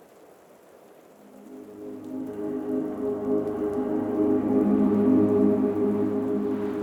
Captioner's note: rain continues pattering; mysterious music